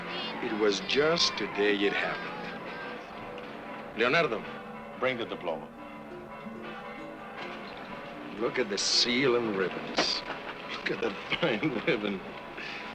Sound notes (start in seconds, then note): 6.3 bells ringing